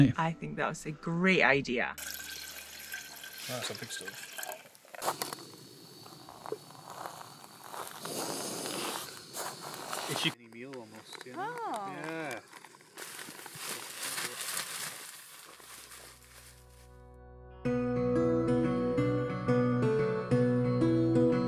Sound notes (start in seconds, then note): 11.4 group chattering; 17.7 upbeat music begins